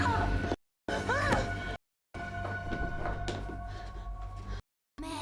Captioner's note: Megan screaming